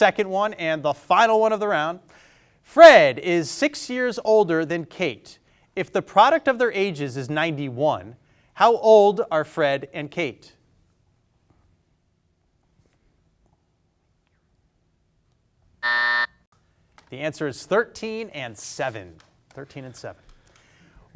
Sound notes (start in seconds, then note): 15.8 buzzer sounding